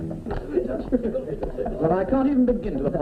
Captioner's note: party chatter